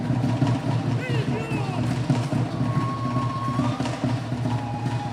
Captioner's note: entertainer chant